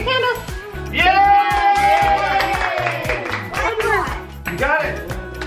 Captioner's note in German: alle jubeln